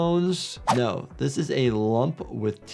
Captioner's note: graphics whooshes